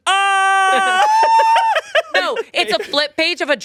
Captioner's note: screams; screaming; laughing